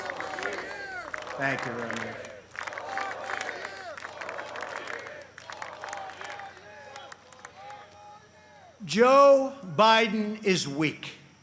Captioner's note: chanting "four more years"